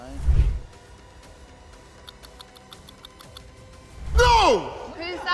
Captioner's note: clock ticks